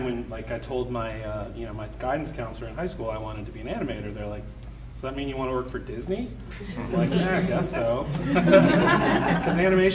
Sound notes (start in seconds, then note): 6.6 audience laughing